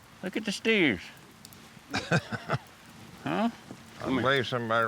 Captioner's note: laughing